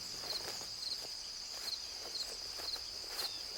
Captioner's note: crickets chirping